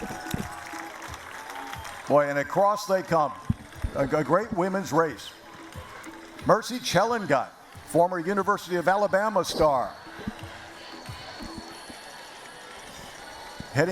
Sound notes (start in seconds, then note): 1.0 applause